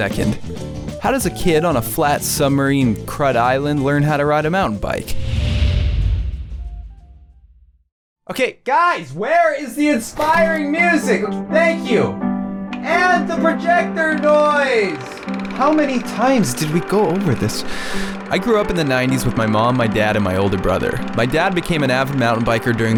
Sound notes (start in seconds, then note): 10.7 inspiring music; 14.2 projector rolling